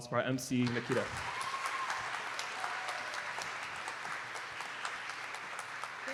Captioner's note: applause